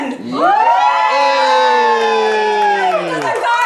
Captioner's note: cheering